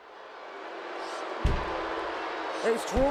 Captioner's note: crowd booing